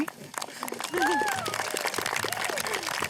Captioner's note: applause